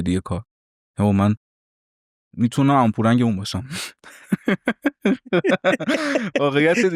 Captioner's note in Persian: خنده